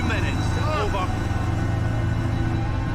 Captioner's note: yells